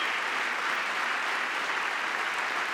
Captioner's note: applause